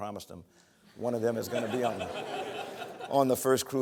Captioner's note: laughter